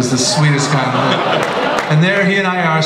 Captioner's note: laughter